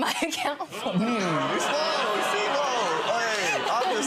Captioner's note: audience jeering